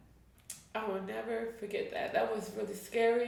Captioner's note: tearing up